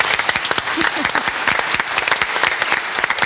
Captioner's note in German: Applaus